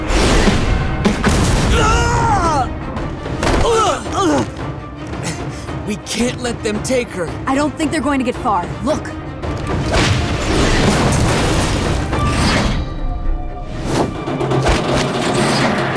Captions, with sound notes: [groaning] We can't let them take her. I don't think they're going to get far. Look!